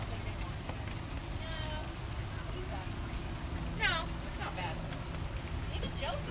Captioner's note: rain